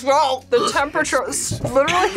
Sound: wretches

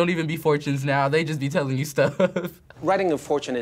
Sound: laughs

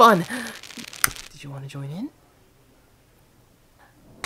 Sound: flame extinguishes

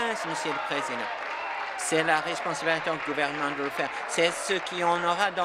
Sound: applause

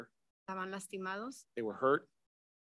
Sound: speaks in Spanish

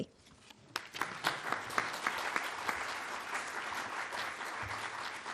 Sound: audience clapping

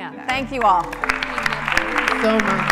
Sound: applause

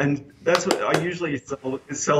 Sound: claps

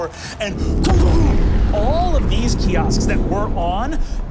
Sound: explosion resounds

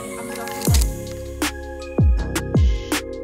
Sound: shutter clicks; upbeat music

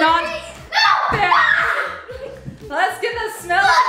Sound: screaming

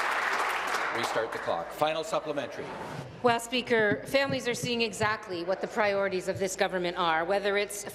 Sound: applause

